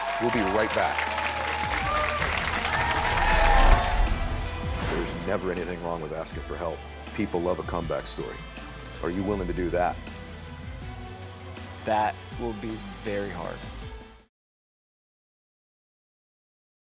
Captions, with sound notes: We'll be right back. (audience cheering) There's never anything wrong with asking for help. People love a comeback story, are you willing to do that? - That will be very hard.